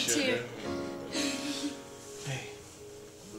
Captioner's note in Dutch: Melissa grinnikt